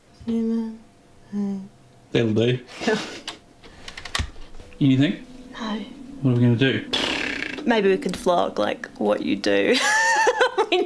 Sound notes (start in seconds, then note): 3.1 laughs; 6.9 blows out air loudly; 9.7 laughs